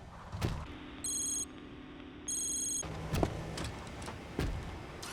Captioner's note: robot whirring; interface beeping